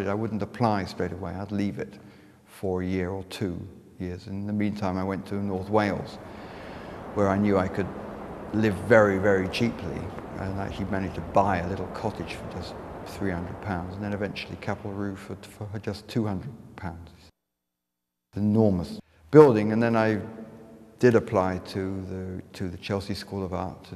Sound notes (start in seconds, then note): 6.4 wind blowing